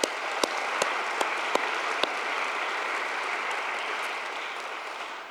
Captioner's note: audience applauding; claps